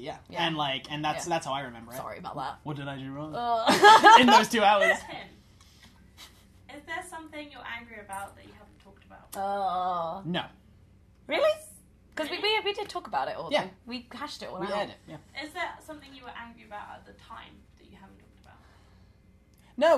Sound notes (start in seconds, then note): 3.6 laughter